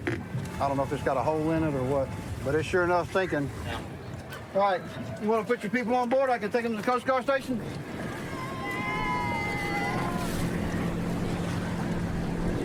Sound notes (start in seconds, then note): 7.8 cheers